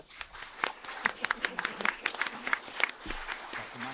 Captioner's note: applause